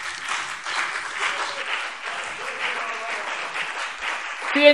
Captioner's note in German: Anhaltender Beifall BÜNDNIS 90/DIE GRÜNEN und CDU